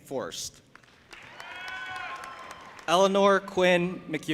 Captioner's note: audience applauding and cheering